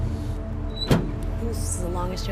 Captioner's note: truck door closes